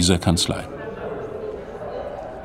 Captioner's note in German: Stimmengewirr